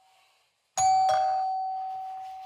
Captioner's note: doorbell rings again